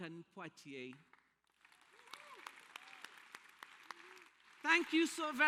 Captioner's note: applause